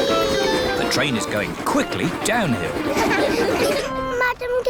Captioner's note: laughter